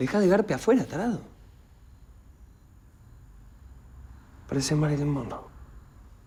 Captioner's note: Ramon speaks in foreign language; Carlitos speaks in foreign language; Ramon speaks in foreign language